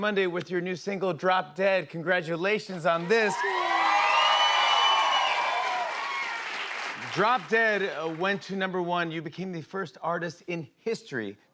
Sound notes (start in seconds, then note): 3.0 cheers and applause